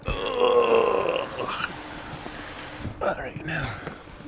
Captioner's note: crew groaning